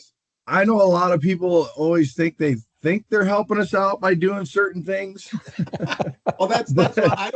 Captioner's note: laughter